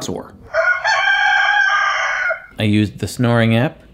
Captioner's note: rooster crows